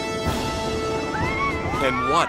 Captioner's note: coaster whirring; riders screaming